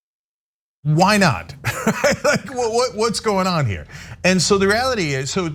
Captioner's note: laugh